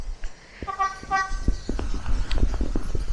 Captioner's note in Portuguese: buzinando